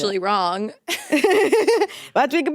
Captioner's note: both laughing